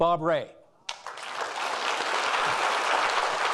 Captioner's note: applauding